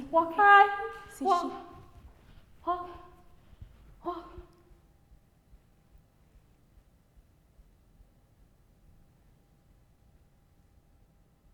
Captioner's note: music and vocalizations stop, silence